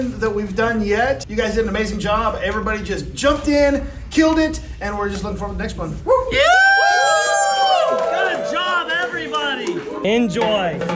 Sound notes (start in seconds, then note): 6.0 group cheers